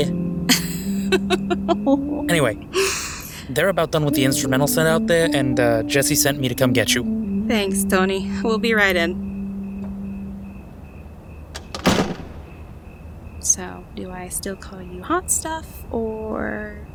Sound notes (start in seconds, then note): 1.2 laughing; 11.5 door closes